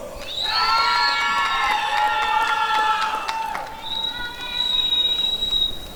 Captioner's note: applause and cheering